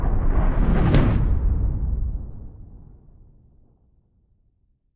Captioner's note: loud whooshing